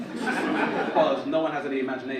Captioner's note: audience laugh